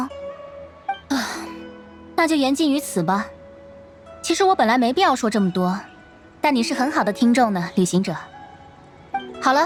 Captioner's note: sigh